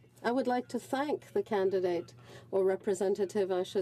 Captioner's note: speaking French